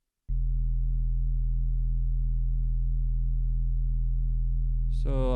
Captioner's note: low hum